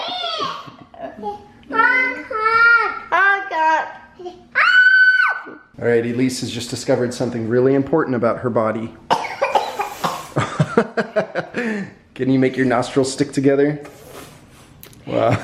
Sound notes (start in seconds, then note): 0.0 laughing; 4.5 shrieking; 10.9 laughing